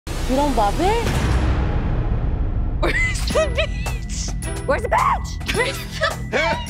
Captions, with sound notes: - You don't love it? Where's the beach? (laughs) - Where's the beach? - Where's the beach?